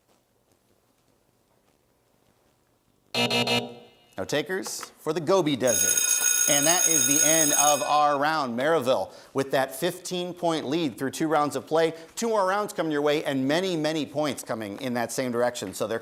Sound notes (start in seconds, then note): 3.1 buzzer sounds; 5.6 school bell ringing